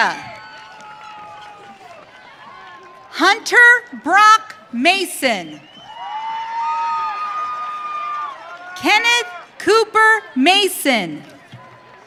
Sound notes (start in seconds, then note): 0.1 audience cheering; 5.6 audience cheering